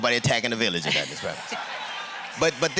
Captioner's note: laughter